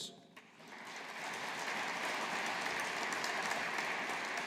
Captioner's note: audience applauding